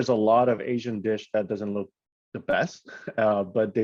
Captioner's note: chuckles